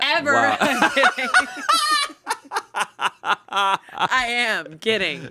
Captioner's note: everyone laughs